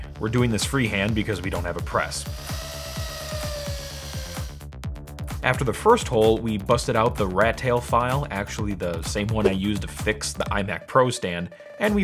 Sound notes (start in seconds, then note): 2.7 drilling